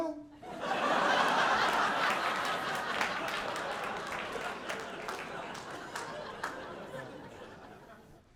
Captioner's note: audience laughing